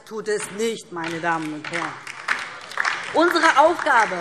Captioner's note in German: Beifall DIE LINKE und SPD